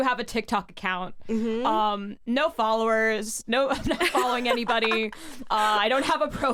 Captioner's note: both laugh